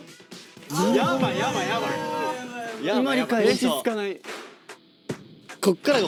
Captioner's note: uproar